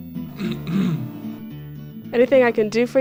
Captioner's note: clears throat